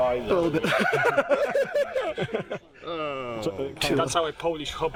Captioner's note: laughing